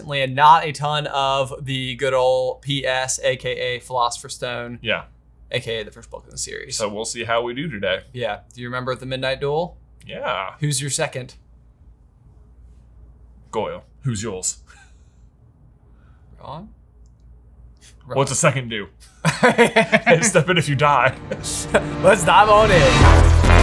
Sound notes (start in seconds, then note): 19.0 both laughing; 23.3 dramatic music plays